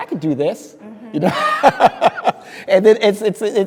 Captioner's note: speaker laughing